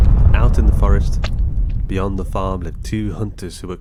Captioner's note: spittle squirts